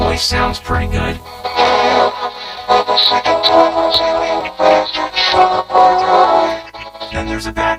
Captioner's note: in-game, with a very distorted voice